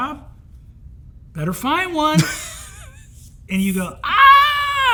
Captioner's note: Hank laughs